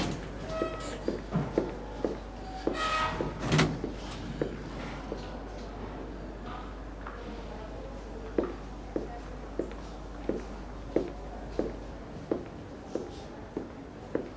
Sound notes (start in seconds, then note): 0.1 footstep sound; 6.5 footstep sound